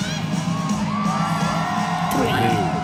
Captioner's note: cheering